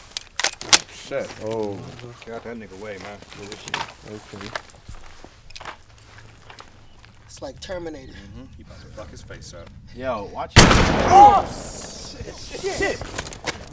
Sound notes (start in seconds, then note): 10.5 gun fires; 11.6 Cody yells